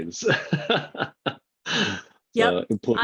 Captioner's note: laughing